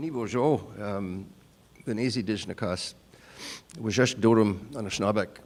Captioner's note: speaking Anishinaabemowin